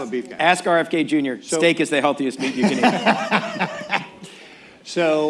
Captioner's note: laughter